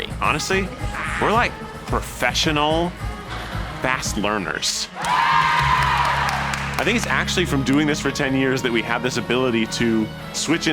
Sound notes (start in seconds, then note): 4.9 onlookers cheering